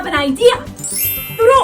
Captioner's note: ting